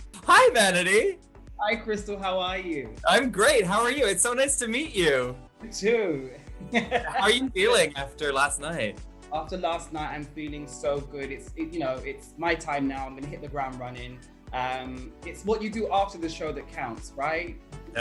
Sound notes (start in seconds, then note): 6.6 laughter